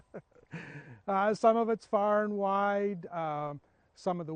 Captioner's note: laughs